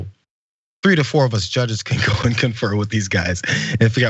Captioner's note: laugh